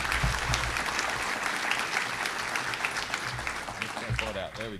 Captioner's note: applause